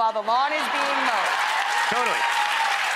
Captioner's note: audience clapping and cheering